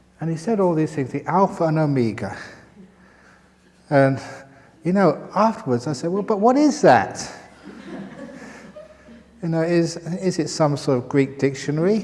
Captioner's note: laughter